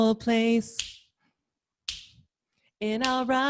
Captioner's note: snaps fingers